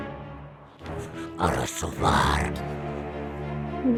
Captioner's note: speaks in demonic language